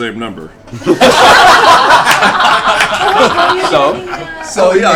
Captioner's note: laughter